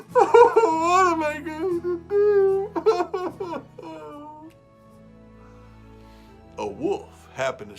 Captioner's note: crying